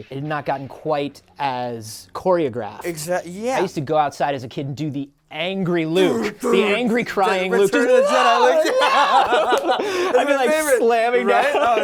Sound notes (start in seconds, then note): 9.2 laughs